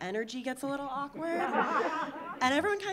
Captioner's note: audience laughing